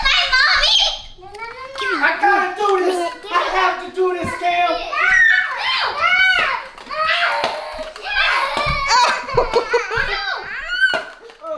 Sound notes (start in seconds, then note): 6.9 screams; 9.0 laughter